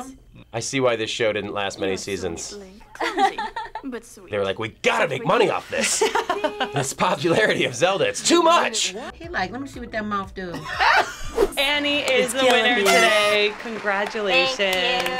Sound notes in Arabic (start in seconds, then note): 10.6 يضحك